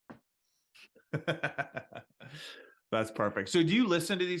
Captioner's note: laughs